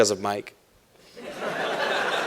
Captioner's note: laughter